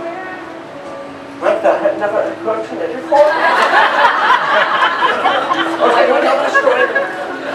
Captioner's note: audience laughs